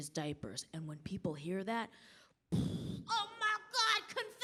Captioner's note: mimics mind blowing